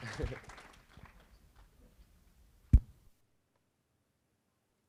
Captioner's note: chuckles